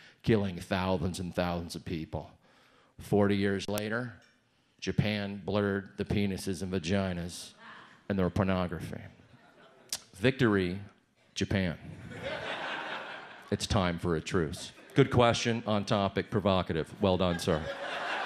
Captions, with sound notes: killing thousands and thousands of people. 40 years later, Japan blurred the penises in vaginas in their pornography. Victory, Japan. (audience laughs) It's time for a truce. Good question, on topic, provocative. Well done, sir.